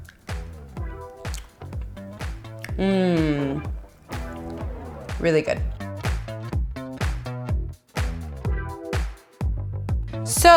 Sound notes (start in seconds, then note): 2.4 lips smack; 5.8 upbeat funky guitar music